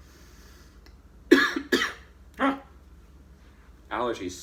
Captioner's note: exclaims